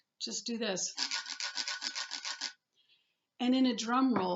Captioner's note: scraping on ridges